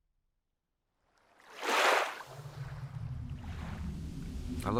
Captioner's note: water splashes